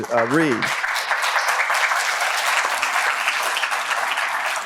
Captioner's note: applause